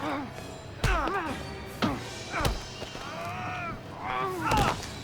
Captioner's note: Nick groans; both grunt and shout